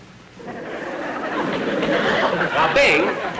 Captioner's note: audience Laughing